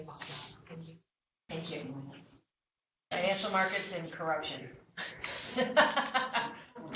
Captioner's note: laughter